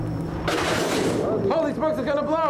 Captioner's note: air blows from pipe